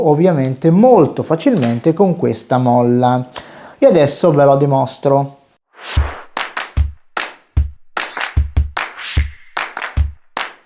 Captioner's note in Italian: Applauso